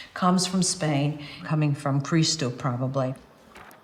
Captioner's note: speaks in foreign language